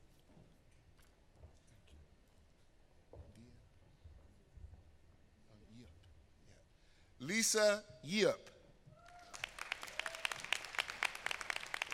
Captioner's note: applause